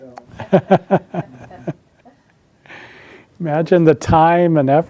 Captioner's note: laughing